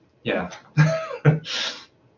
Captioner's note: laughs